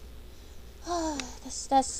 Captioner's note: sigh